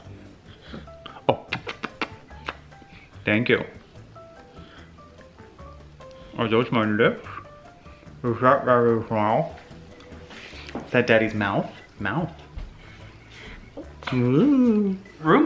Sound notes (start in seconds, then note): 1.4 lips smacking